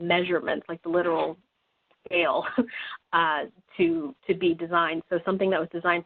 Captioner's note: chuckling